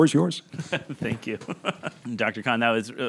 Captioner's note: chuckling